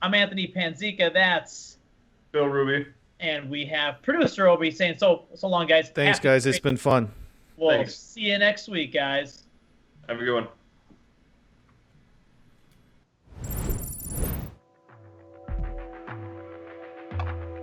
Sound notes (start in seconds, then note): 13.4 digital blips